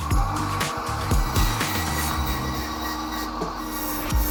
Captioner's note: saw whirring